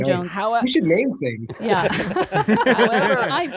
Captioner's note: laughs